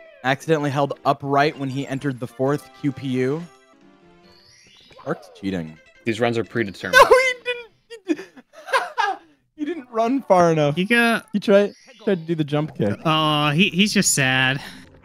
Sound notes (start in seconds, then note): 7.9 laughter